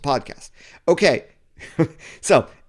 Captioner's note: laughs